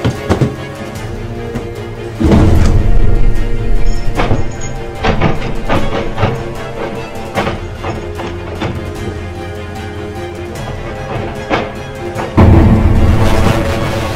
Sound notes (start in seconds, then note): 4.0 doorknob rattling; 7.4 dramatic music